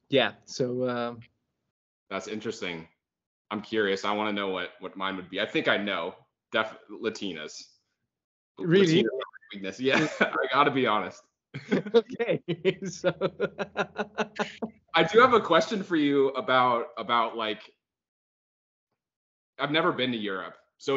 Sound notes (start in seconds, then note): 12.4 laughing